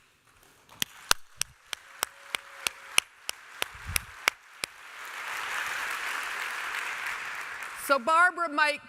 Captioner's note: applause from the crowd